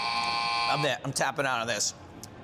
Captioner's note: timer buzzing